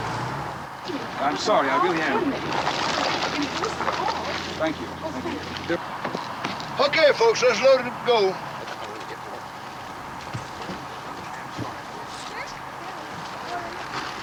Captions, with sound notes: I'm sorry, I really am. - Oh, goodness. - Thank you. - Okay, folks. Let's load it up to go. (passengers chattering)